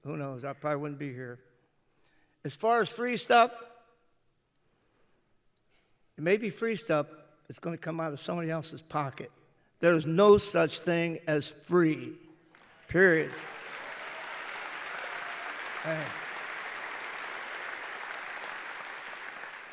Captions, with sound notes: Who knows? I probably wouldn't be here. As far as free stuff, it may be free stuff, but it's going to come out of somebody else's pocket. There's no such thing as "free." Period. (applause) Is the Medicare system perfect?